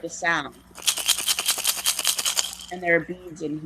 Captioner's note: rattle